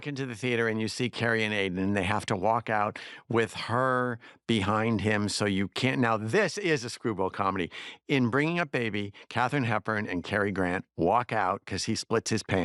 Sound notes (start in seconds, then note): none